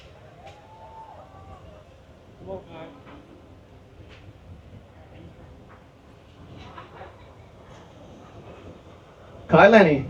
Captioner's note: applause